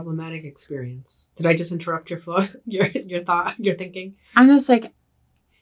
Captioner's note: laughs